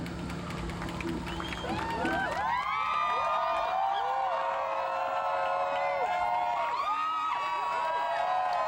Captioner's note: cheering, applause, whistles